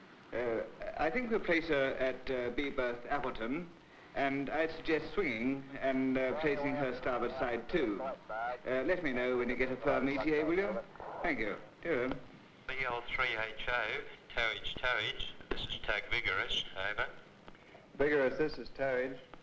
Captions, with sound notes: "I think to place her at the berth Appleton and I'd suggest swinging and placing her starboard side too." "Let me know when you get a perm. ETA, will you?" "Thankyou." (speaking over radio) "B-O-3-H-O." "Towage. Towage." "This is tug Vigorous. Over." "Vigorous, this is Towage."